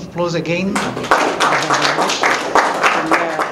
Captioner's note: applause